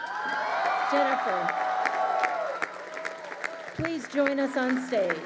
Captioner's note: crowd cheering